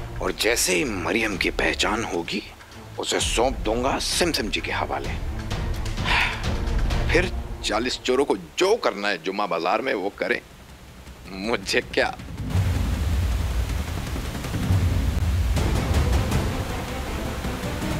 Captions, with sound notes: And as soon as I recognise Mariam, I will hand her over to Simsim! [sighing] Then the forty thieves are free to wreak havoc in the Friday Bazaar! I don't care! [water gushing] [dramatic music playing]